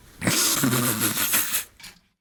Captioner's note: laughing